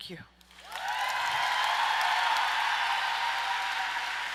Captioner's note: applauding